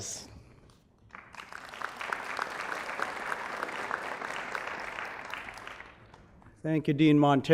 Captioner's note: applause